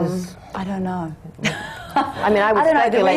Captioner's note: laughs